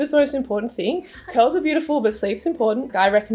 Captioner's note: interviewer laughs